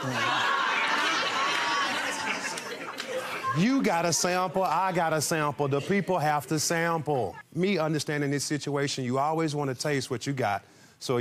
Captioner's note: audience laughing